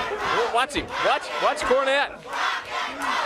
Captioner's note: crowd cheering